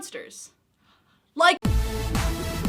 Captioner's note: gasp